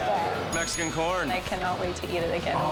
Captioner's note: bell dinging